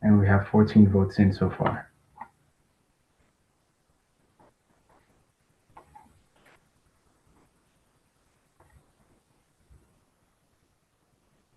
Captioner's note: pause